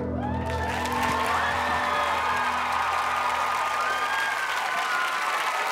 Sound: audience cheering and applauding

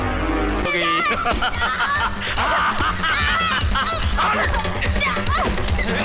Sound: laughs

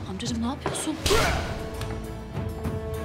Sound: Tokat sesi

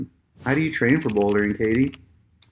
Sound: keyboard clicking

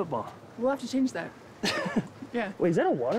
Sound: laughs

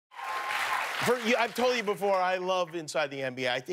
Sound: cheers and applause

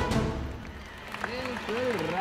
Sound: applause

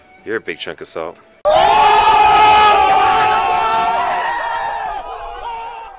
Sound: large crowd

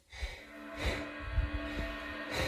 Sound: breathing

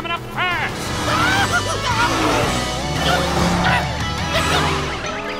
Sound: yelling

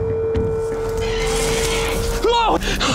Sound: animal screeching

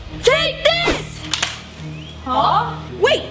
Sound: splatters

